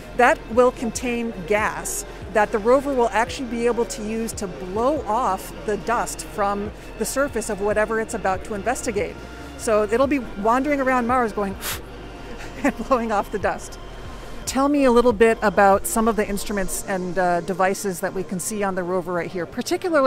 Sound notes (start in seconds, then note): 11.5 blows